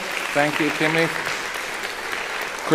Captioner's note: applauding